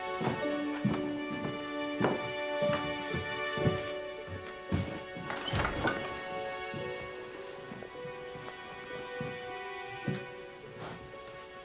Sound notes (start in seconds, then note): 4.8 door opening